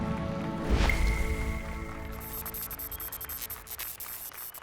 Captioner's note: applause and cheers